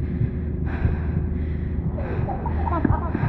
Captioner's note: Ari breathing heavily